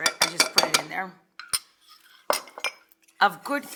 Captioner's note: dishes clanking